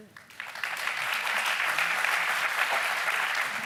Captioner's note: applauding